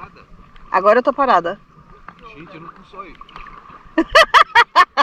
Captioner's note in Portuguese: risos